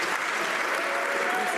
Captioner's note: some Applause